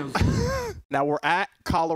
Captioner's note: laughing